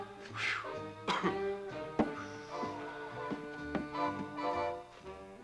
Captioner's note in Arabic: سعال; موسيقى حارة